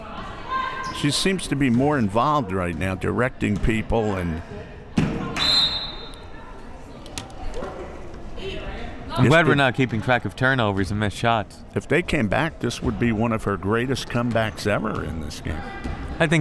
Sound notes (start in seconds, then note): 5.3 whistle